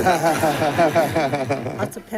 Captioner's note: audience laughing